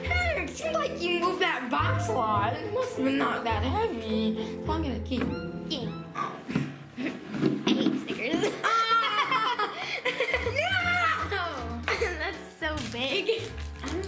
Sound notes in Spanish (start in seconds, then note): 8.5 se ríe; 8.6 Ambos ríen